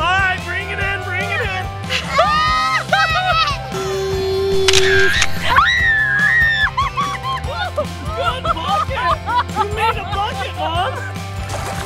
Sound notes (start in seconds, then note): 2.3 shouting; 4.5 camera Clicks; 5.5 screaming